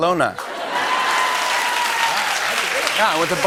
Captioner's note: cheers and applause